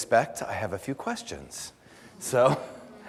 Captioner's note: audience laughter